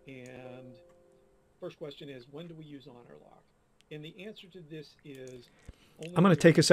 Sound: voice in window talks

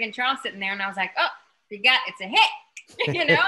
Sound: laughs

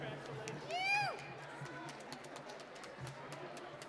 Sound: applause

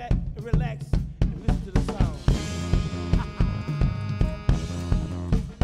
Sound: laughs; rhythmic upbeat music continues

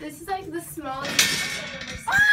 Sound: metal door clangs

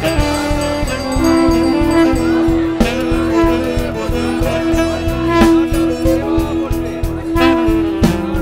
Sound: prayer bell rings; blowing conch

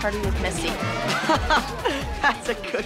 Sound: laughing

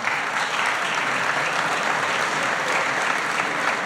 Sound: applause

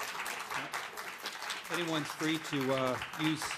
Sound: applause

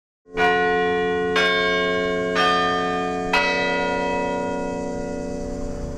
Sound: Campanile Bells

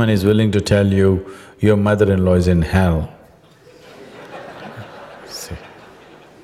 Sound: laughter

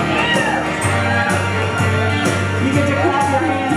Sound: cheering from crowd

